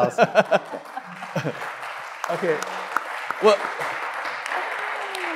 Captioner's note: audience laughing and clapping